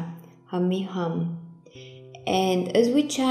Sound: speaking in foreign language

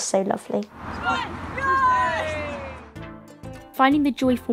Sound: cheering

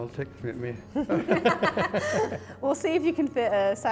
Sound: both laugh

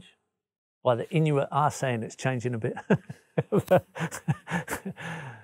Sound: laughs

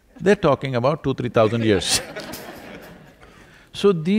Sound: few laugh

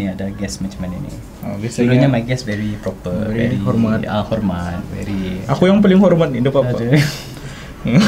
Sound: laughs

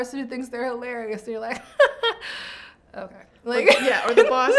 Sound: laughs

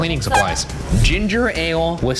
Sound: air horn beeps

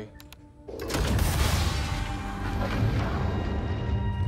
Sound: escape pod jettisons

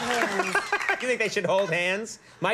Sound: Conan laughing

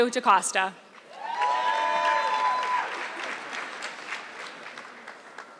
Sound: audience clapping

